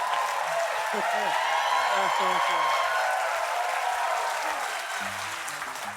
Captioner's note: applause